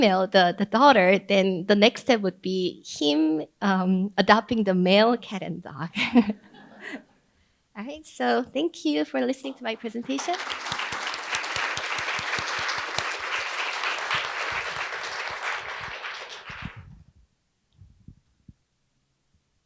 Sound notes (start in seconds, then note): 9.8 audience applauding